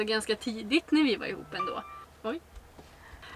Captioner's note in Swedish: Mobilljud